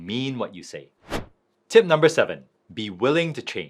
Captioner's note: screen wipe whooshes